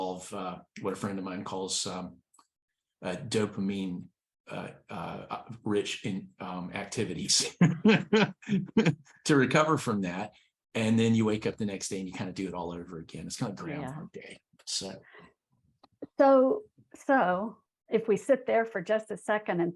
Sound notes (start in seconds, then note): 7.4 laughs